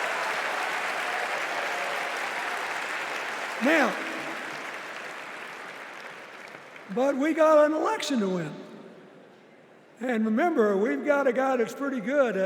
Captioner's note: applause